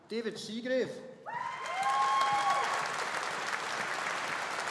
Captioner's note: audience applauding